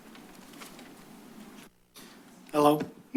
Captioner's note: rustles